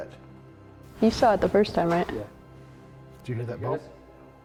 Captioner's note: knock